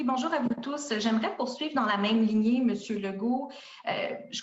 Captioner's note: speaks French